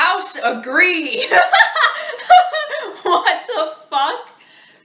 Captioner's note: laughs